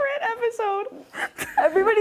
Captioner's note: laughing